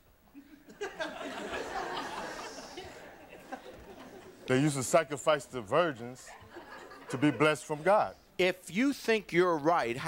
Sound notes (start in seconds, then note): 0.5 audience laughing